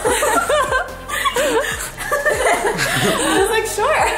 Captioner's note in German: lacht